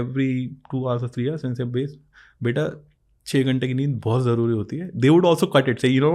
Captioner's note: speaks in Hindi